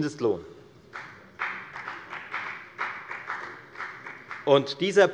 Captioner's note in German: Beifall bei der FDP